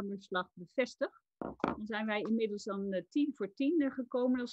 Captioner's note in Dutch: Voorzitter klopt met hamer